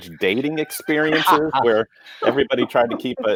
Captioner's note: laughing